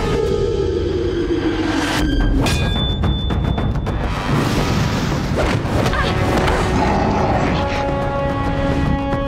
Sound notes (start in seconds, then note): 2.5 clang; 5.7 Suki exclaims; 6.0 Appa growls